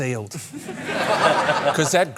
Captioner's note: laughter